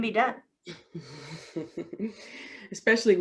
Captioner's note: chuckles